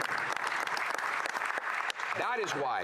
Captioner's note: applause